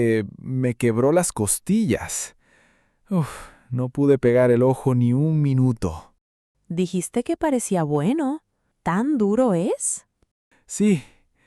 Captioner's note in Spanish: suspiro